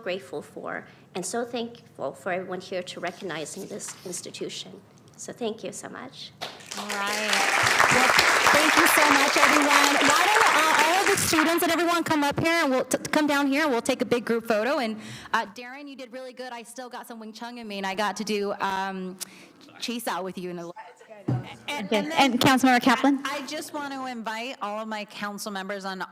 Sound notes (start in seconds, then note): 10.8 applause